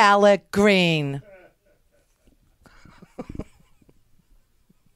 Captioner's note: laughs